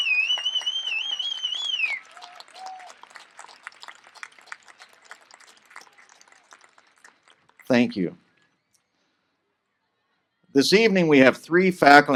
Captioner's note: applause